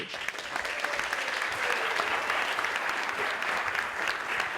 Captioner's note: audience applauding